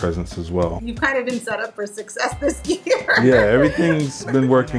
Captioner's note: chuckles